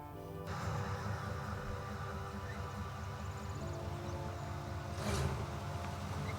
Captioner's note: engine rumbling